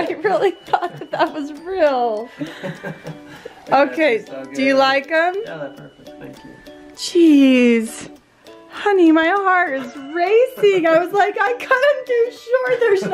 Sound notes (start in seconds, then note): 2.4 laughs